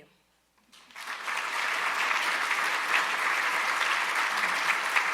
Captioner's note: audience applauding